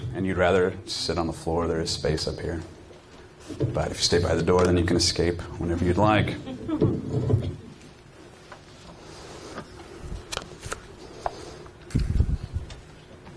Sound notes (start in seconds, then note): 6.4 audience chuckling